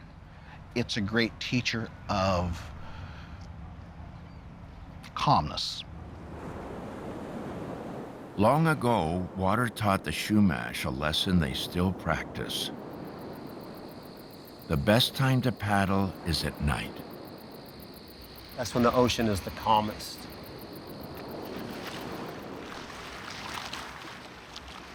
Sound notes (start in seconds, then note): 12.9 crickets chirping; 22.0 water lapping